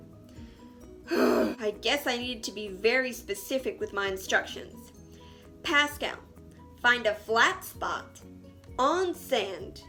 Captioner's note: sigh